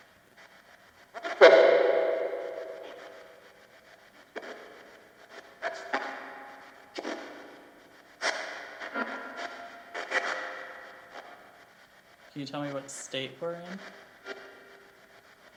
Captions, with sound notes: (static crackles) (ghostly male voice warbles) Can you tell me what state we're in?